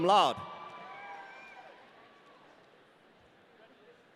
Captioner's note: audience cheering